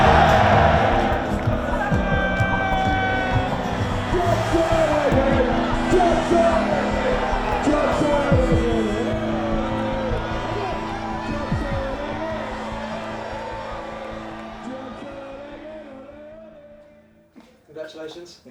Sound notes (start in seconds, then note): 0.3 crowd erupts; 5.8 crowd chanting